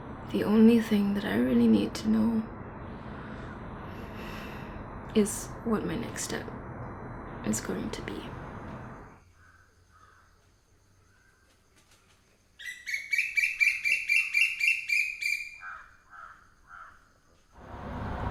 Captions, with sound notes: the only thing that i really need to know is what my next step is going to be. (birds chirping)